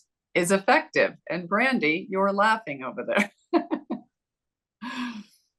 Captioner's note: chuckles